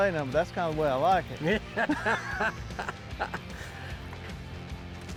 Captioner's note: laughs